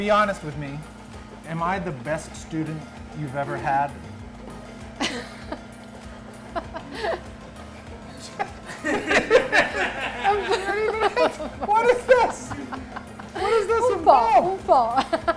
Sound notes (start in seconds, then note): 5.0 laughs